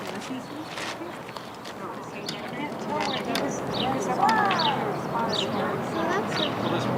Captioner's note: birds chirping